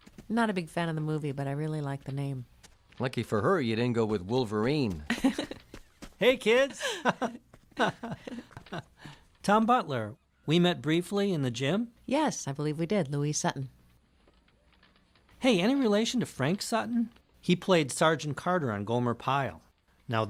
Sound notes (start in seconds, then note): 5.1 Louise chuckles; 6.5 chuckles